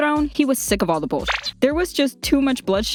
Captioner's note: beep